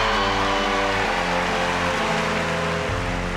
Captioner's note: cheering and applause